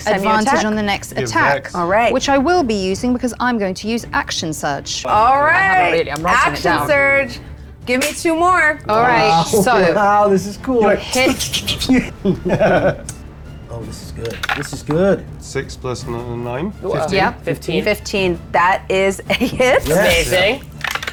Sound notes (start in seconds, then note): 6.7 players chattering; 11.0 puffing and chuckling